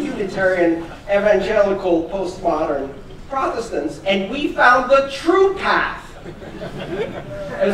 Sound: laughter

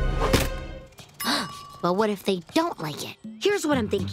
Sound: gasping

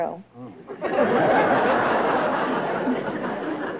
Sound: laughter

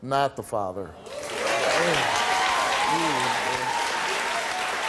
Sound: audience applause

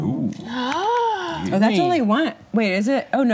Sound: gasps

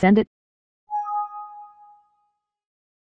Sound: Windows Vista Exclamation

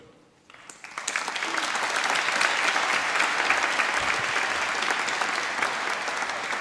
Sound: applause

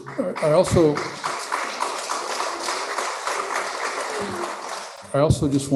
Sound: applause

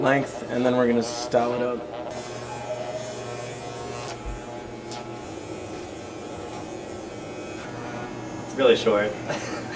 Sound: hair clippers buzzing

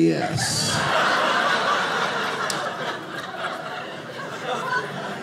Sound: audience laughing

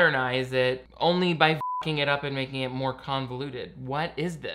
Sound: beep

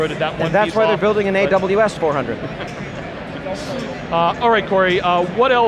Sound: laughs

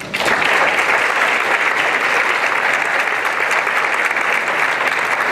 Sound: applause

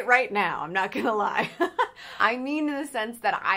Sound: chuckles

